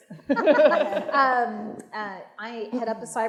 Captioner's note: audience laughing